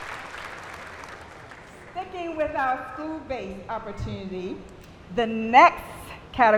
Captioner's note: applause